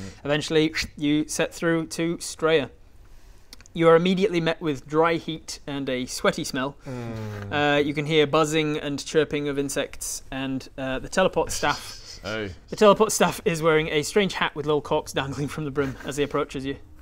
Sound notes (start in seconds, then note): none